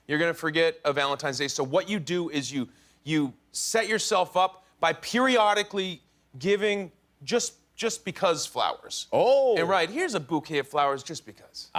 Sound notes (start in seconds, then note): none